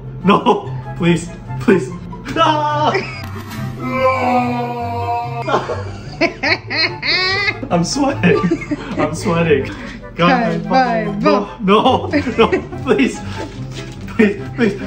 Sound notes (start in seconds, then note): 3.8 slow Motion Scream; 3.8 screams; 5.4 evil Laughter